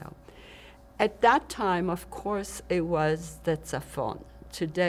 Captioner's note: hebrew